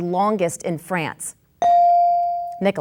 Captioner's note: bell dings